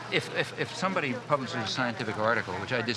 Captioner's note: none